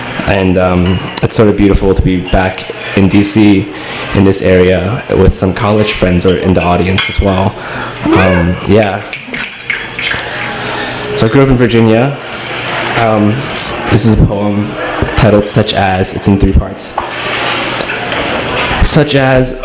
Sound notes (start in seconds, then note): 8.2 audience cheers